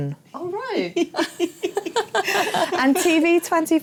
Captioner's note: laughter